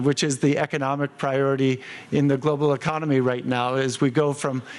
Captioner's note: none